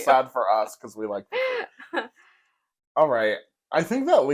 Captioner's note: laugh